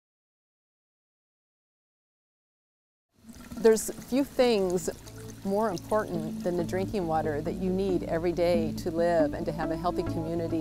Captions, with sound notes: >> [Water sounds and music] there's few things more important than the drinking water that you need every day to live. And to have a healthy community.